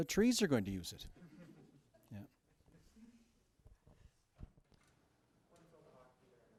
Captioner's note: laughter